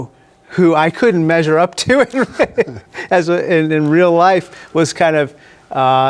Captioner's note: laughs